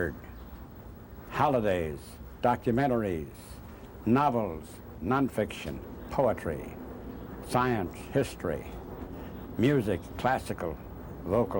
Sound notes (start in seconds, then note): none